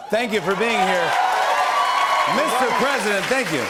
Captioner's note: cheers and applause